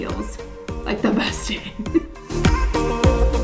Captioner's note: laughing